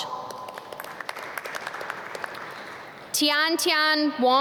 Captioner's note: audience clap